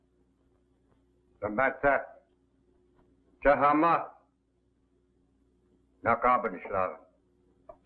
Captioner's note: momba speaks a foreign language